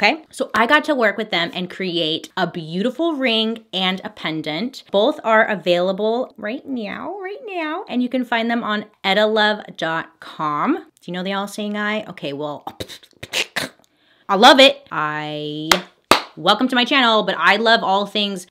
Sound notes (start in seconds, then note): 12.8 stuttered spitting; 16.1 claps